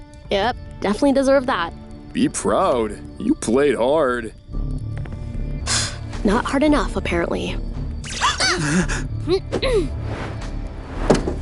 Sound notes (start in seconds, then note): 5.6 sighs; 8.5 all gasping